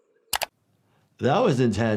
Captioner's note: click